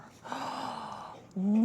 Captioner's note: gasps